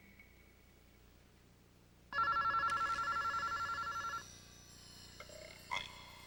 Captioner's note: ring